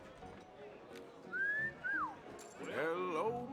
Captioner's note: whistle